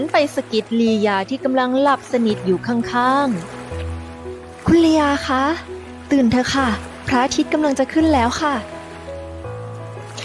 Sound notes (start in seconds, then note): 3.7 Pha Phrae, softly